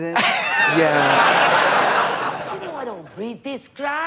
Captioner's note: Katya rasps